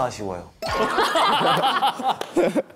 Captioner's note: laughing